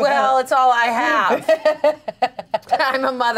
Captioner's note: laughs